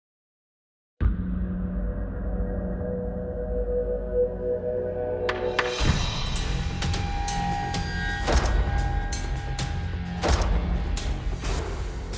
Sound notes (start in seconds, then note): 2.3 tense, dramatic music playing; 8.2 gunshot; 10.2 gunshot